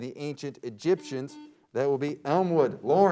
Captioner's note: beep